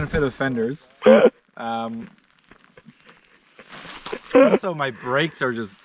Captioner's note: laughing